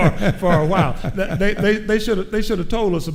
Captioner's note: chuckling